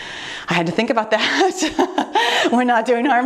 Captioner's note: laughing